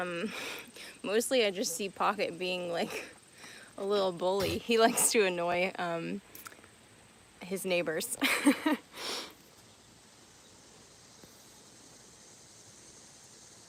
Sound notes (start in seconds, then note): 0.1 laughing; 8.1 laughing